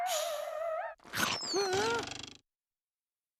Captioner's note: gasping